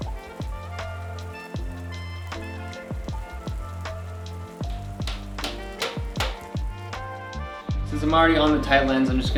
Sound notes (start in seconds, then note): 5.0 hammering nail steadily